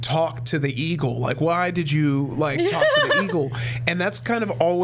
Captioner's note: laughs